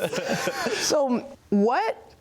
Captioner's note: both laughing